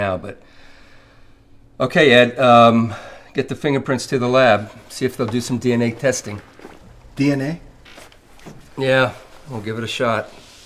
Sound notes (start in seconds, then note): none